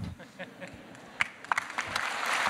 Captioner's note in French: Rires; Applaudissements